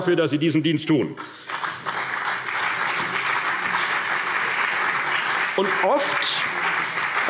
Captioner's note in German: Beifall CDU und BÜNDNIS 90/DIE GRÜNEN